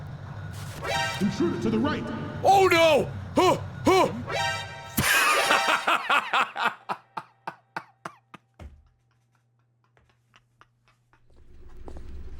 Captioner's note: laughs